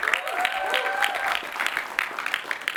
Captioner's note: applause